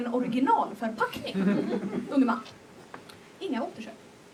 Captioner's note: laughter